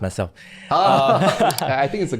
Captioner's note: laughing